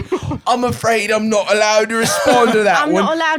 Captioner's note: britishly